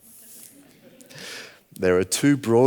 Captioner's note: audience laughing